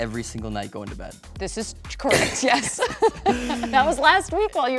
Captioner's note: both laughs